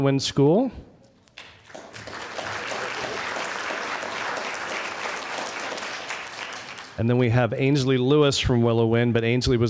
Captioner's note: applause